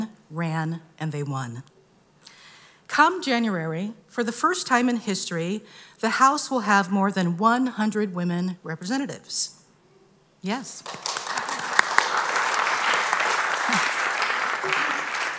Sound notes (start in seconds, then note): 10.8 applause